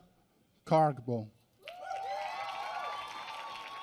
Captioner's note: applause